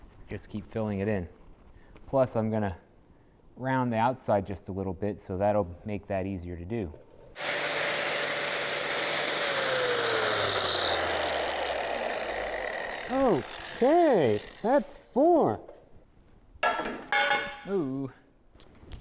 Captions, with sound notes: Just keep filling it in. Plus I'm going to round the outside just a little bit so that'll make that easier to do. (drill whirring) Okay, that's four. Ooh.